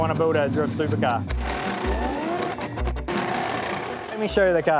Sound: tires screeching

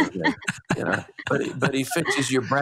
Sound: all laughs

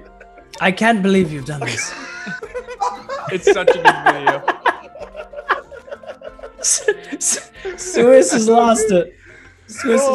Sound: laugh

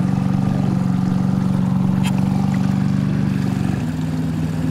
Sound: boat motor humming

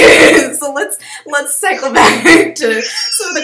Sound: laughs

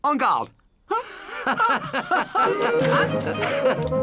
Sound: laughing

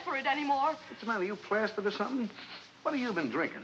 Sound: sniffing

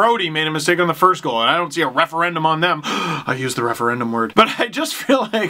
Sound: gasp

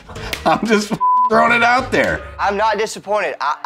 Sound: beep

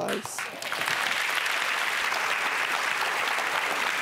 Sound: applause

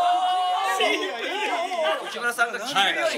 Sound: laughs

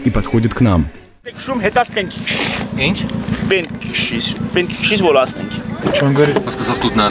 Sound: speaking in Armenian

